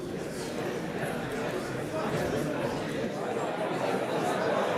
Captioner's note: crowd murmuring